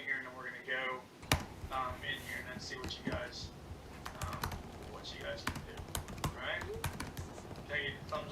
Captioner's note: typing sound